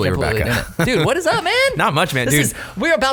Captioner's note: laughing